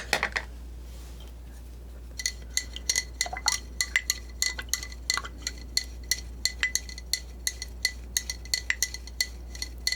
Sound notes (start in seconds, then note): 0.6 scratching; 4.8 scratching